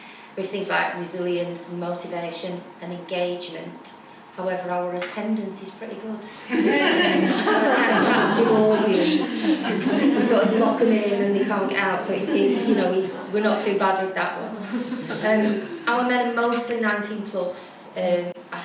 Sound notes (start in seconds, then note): 6.4 laughter